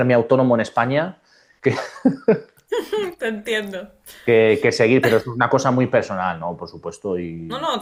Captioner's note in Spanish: risas